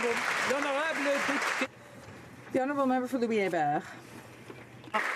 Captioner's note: some Applause